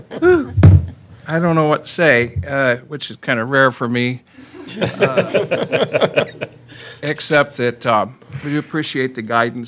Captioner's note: laughter